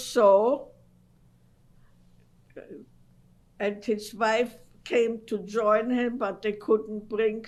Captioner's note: pauses for 3 seconds